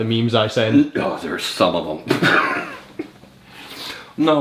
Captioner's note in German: lacht